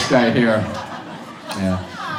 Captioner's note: audience laughs